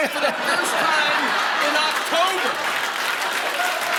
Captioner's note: laughter